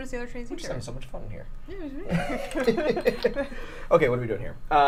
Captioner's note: laughs